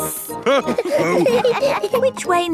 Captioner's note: all laughing